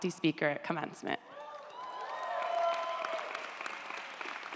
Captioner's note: audience applauds